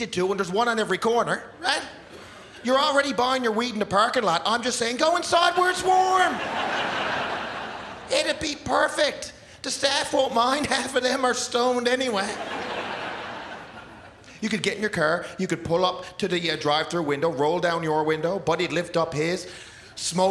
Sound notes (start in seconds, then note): 12.2 laughter